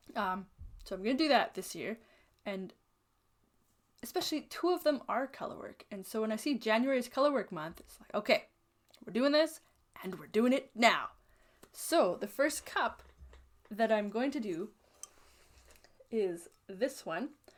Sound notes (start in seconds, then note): none